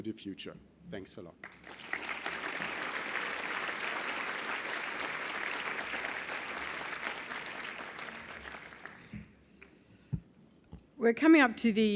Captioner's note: applause